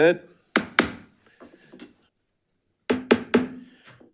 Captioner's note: gavel banging